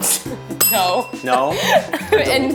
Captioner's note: laughs